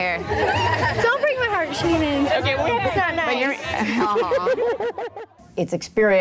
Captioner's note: volunteers chatter; laughter